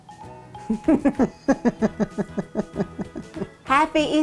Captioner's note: laughing